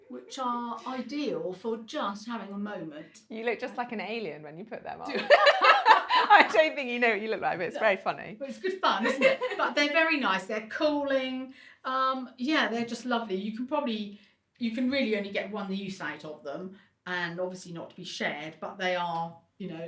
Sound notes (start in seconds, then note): 5.1 laughs